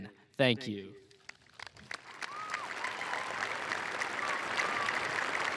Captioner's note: applause and cheering